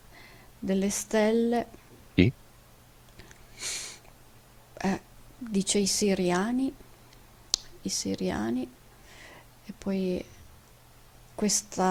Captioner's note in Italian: sbuffare